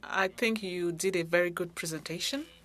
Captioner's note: speaking French